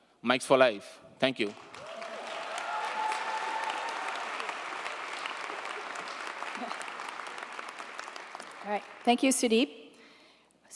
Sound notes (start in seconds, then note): 1.4 audience applauding